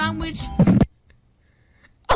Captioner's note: mic falls off